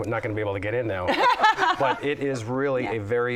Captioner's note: laughter